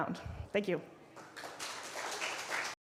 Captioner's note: applause